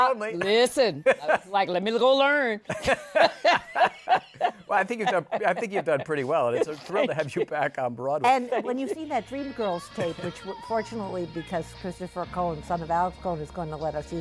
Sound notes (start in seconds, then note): 2.6 laughter